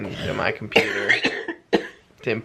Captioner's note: coughing